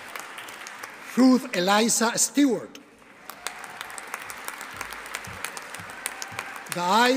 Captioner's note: audience applauding